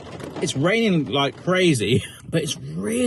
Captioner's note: chuckles